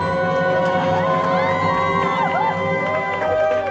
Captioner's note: cheering